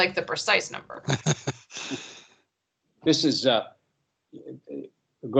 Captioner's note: laugh